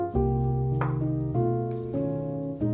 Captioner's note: knife tapping; gentle music